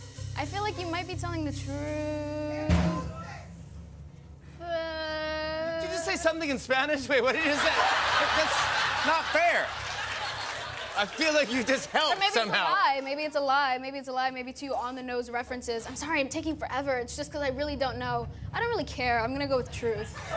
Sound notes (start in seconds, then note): 7.4 laughter; 20.1 laughter